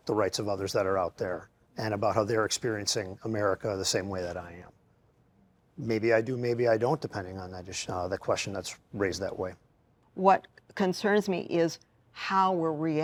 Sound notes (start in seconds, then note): none